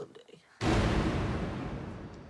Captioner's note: boom